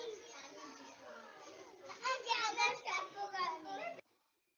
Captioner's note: children's voices